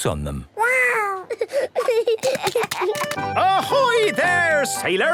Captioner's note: giggling